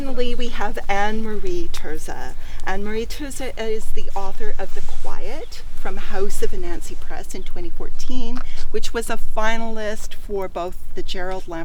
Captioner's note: light laughter